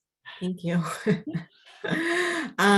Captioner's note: laughing